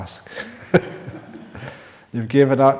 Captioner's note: chuckle